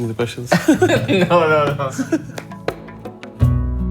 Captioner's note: laughter